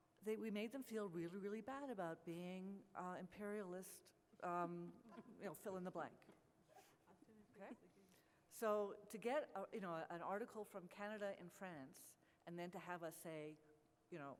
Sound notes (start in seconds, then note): 6.2 laughter